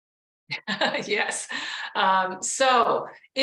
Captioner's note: laughs